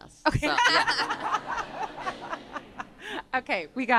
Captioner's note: laughter